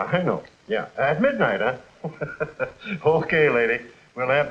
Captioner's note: laughing